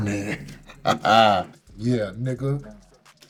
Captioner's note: player laughs